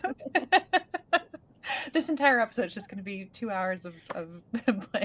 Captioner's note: laughing